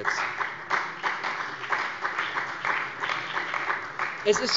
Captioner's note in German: Beifall bei der CDU und dem BÜNDNIS 90/DIE GRÜNEN